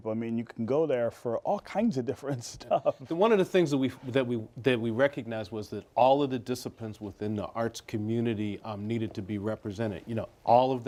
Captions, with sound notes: offering people. I mean, you can go there for all kinds of different stuff. [laughs] One of the things that we recognized was that all of the disciplines within the arts community needed to be represented.